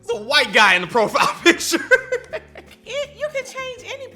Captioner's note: laughs